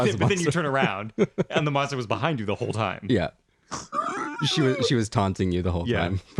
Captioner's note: laugh